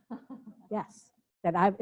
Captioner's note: laughs